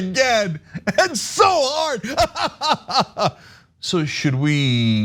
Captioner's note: laugh